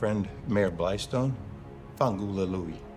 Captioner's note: speaking in Italian